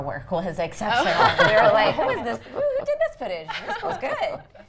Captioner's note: everyone laughs